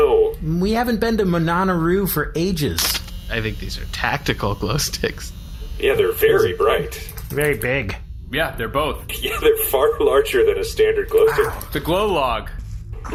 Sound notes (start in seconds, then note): 9.1 laughing